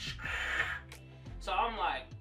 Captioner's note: scraping noise